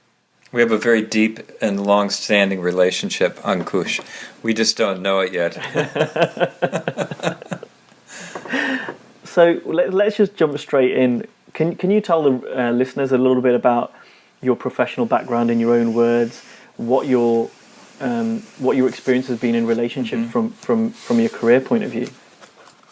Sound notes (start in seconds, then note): 5.6 laughing